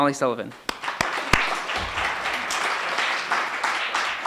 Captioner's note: applauding